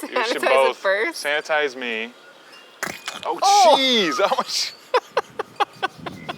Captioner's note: laughs